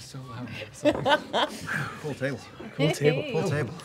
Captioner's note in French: rire